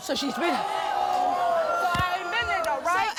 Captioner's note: audience gasps